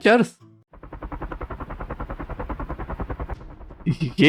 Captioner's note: loud helicopter blades chopping the air outside